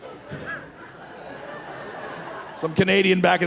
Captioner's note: laughing